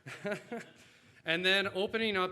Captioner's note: laughs